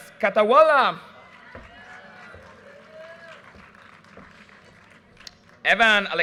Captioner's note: audience cheers and applause